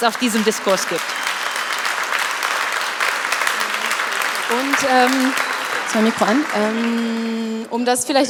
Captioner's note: Applaus